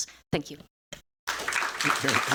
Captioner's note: applause